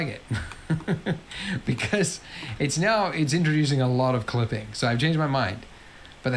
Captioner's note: laughs